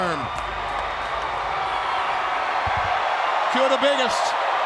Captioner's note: crowd cheering